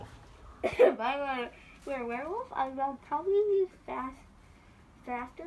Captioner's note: laughs